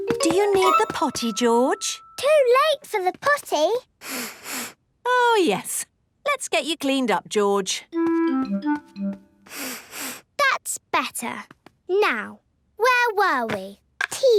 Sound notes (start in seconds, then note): 4.0 sniffs; 9.4 sniffs